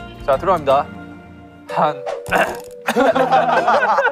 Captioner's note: ahem